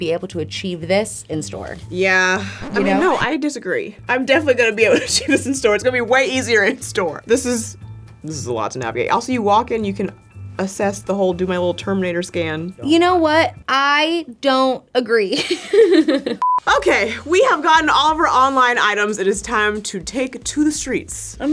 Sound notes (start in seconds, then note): 2.5 record scratches; 15.4 laughs